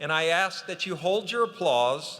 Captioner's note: none